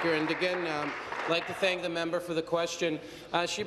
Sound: applause

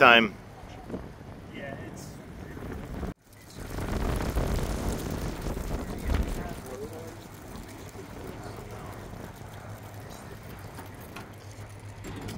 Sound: wind blowing, inaudible voices

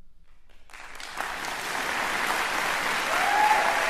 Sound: cheers and applause

